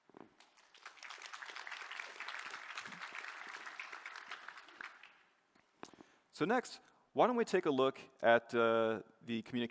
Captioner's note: applause